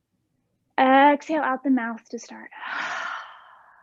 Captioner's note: exhaling